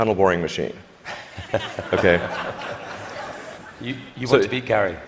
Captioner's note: laughter